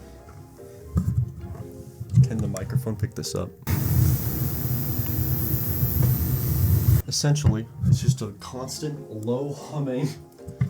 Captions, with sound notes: can the microphone pick this up? *ear piercing electric buzz* essentially, its just a constant, low humming.